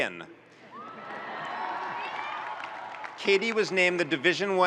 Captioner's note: audience cheering and applauding